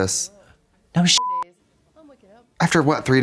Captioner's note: beep